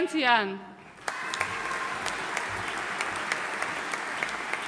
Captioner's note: audience applauding